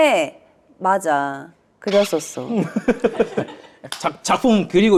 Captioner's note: cringing